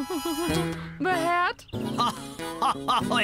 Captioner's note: laughing; giggling